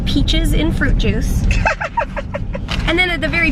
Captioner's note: laughing